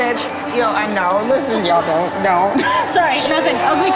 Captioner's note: crying